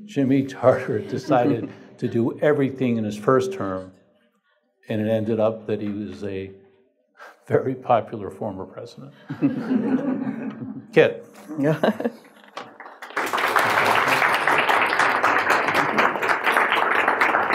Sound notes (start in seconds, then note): 9.2 audience laughs; 12.6 audience applause